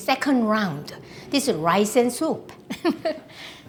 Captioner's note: laughs